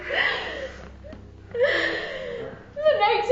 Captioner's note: sobbing